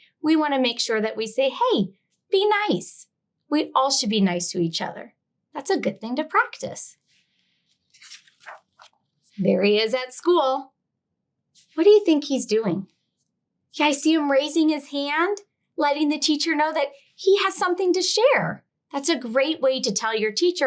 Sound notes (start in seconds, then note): 7.7 page rustling